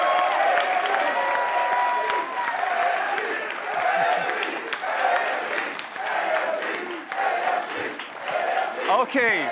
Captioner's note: audience cheers, claps; Audience chants: AMD! AMD! AMD!